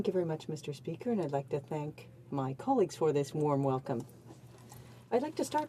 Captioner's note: speaking in french